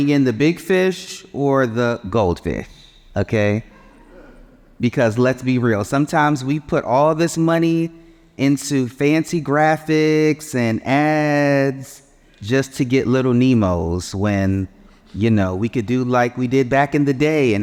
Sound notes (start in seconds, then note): 3.7 audience chuckling